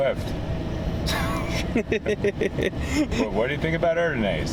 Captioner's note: laughter